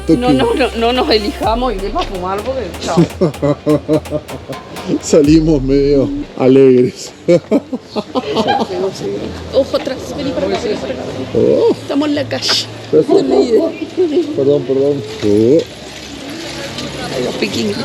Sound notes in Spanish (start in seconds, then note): 7.3 risas